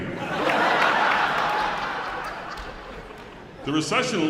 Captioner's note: audience laughing